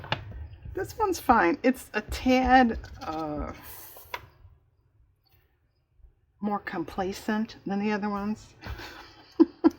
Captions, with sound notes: this one's fine it's a tad, uh... more complacent than the other ones (laughs)